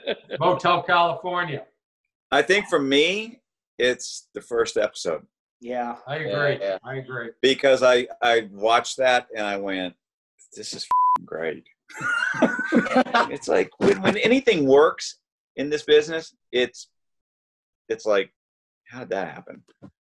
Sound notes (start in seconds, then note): 10.9 beep; 11.9 laughing